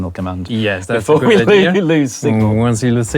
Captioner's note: laughs